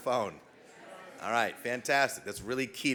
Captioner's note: background chatting